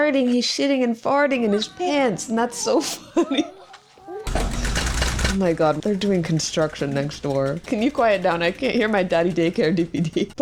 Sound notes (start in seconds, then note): 3.6 construction sounds